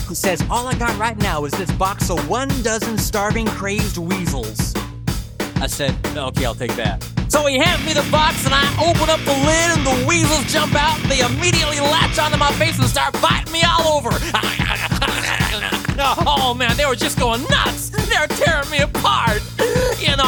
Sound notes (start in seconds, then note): 14.2 imitating starving crazed weasel noises; 19.4 inhale